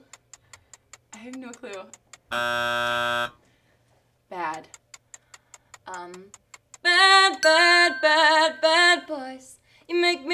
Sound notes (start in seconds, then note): 2.3 buzzer rasps; 4.3 clock ticks; 7.4 bell rings